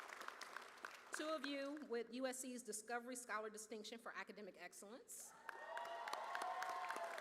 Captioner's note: cheers